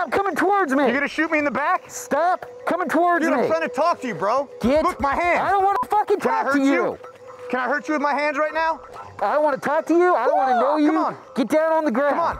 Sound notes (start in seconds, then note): 10.2 martial arts yell